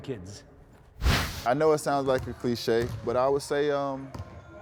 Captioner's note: swish sound